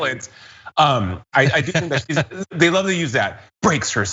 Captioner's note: laugh